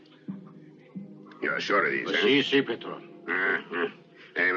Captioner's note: talking Spanish